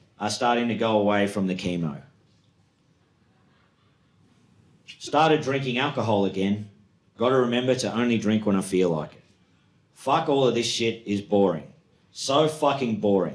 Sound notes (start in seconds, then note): none